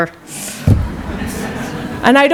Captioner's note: laughter